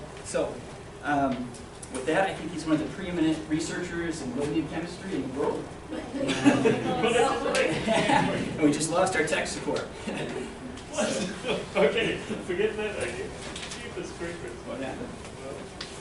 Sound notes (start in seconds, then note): 6.0 laughter